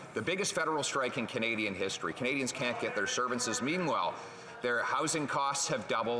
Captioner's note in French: voix de l'interprète